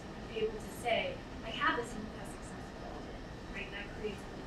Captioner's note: speaking away from mic